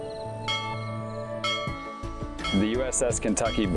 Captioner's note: bell ringing